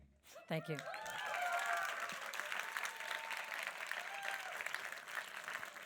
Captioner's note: audience applauds and cheers